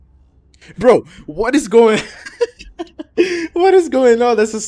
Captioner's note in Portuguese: risadas